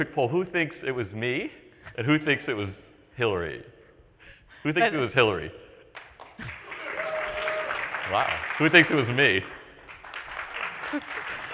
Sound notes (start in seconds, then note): 5.9 applause